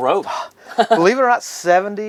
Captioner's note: laughs